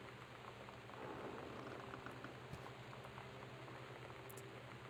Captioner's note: some other Creaking